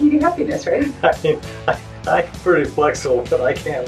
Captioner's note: laughs